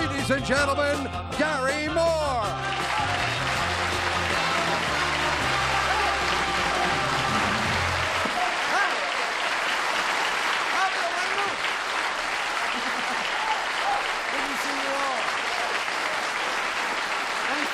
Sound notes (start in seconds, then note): 3.2 applause